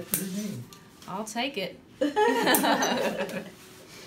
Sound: laughs

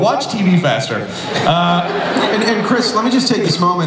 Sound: audience laughs

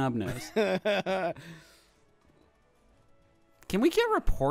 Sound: laughing

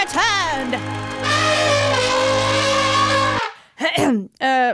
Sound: elephant trumpets

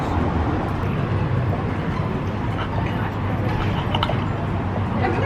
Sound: gulp, gulp

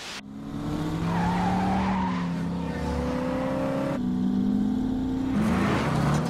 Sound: car engine revs; tires screeching

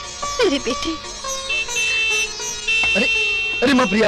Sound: car Horn Honking

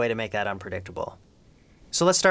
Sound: awkward silence

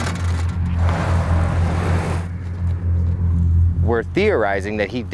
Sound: metal clasping; boat scraping

